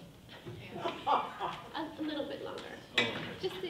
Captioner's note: people laughing